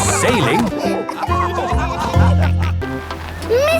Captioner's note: all laughing